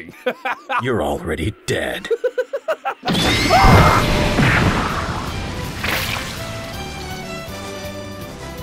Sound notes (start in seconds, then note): 2.0 laughing; 3.1 screaming; 5.9 splatter